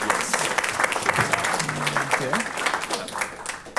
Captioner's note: applause